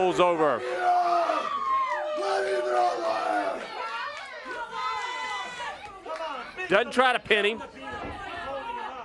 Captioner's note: crowd cheers